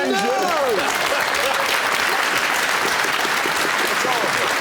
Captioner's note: clapping